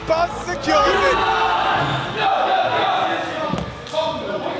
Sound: Atralis cheering

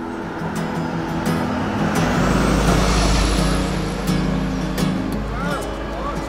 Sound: sound of vehicle passing

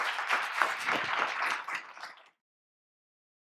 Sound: applause

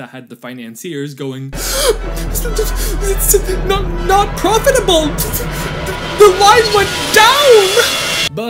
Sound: sputter sputter; sputter

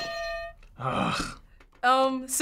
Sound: brassy beat; hitting bell; groaning

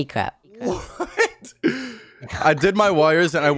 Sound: laughs

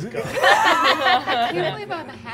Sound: all laughing

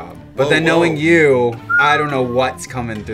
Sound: whistles

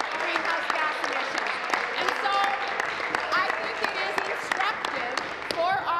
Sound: applause

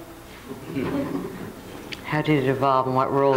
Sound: crowd chuckles

